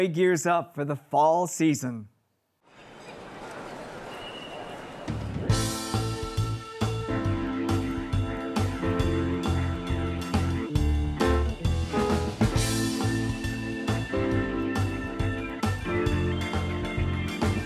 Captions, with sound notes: as Broadway gears up for the fall season. (crowd talking) (upbeat jazz music)